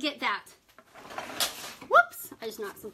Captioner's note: clattering